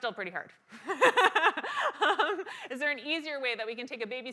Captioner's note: laugh